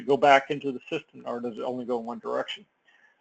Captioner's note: none